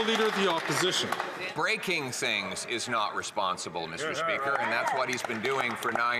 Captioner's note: some Applause